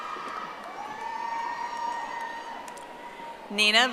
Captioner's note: audience applauding